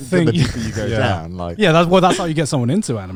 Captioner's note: laughs